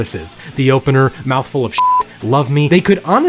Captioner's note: beep